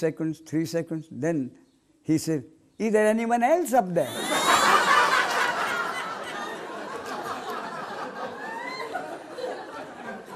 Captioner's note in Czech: smích